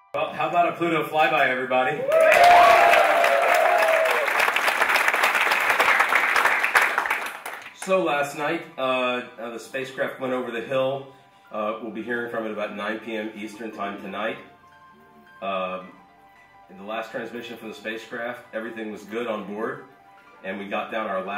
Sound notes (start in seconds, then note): 1.9 applauding and cheering